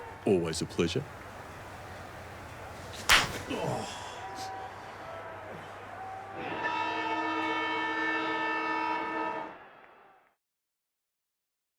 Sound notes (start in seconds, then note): 3.0 slap; 6.3 siren